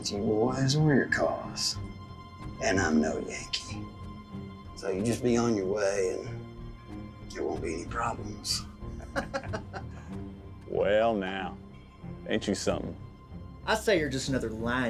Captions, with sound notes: I GOT NO PROBLEM WITH YOU BOYS, OR YOUR CAUSE. AND I'M NO YANKEE, SO YOU JUST BE ON YOUR WAY AND... THERE WON'T BE ANY PROBLEMS. [LAUGHS] WELL NOW... AIN'T YOU SOMETHIN!